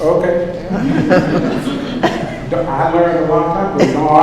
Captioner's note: laughter